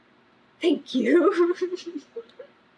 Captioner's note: laughs